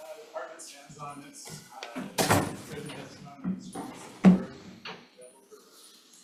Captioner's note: faintly speaking